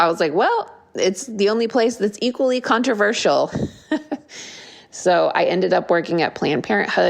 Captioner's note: laugh